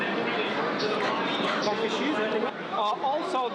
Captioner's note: whispers